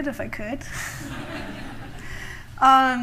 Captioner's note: laughter